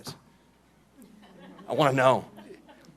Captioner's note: laughing